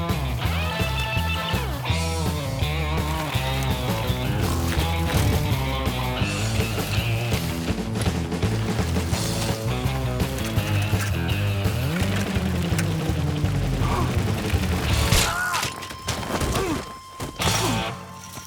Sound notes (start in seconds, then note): 1.9 energetic guitar music continues; 11.2 energetic guitar music continues; 14.3 biker gasps; 15.7 biker shouts